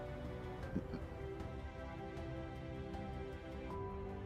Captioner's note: laughing